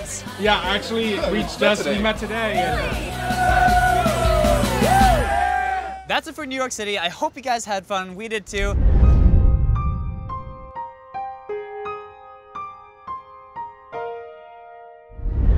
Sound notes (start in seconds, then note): 2.5 cheering; 8.8 sad music